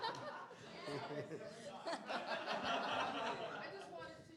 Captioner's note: laughter